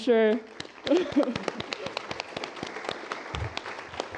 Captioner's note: applause